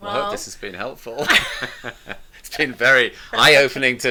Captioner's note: both laughing